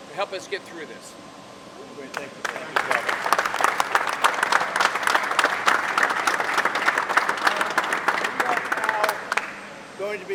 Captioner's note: applause